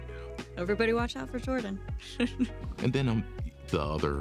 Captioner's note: laughs